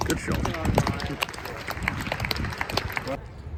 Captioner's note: clapping